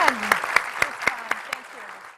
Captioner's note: clapping